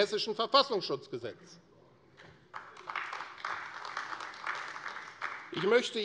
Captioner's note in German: Beifall AfD